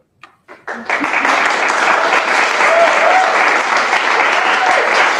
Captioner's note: applause